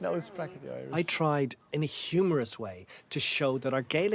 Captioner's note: voice-over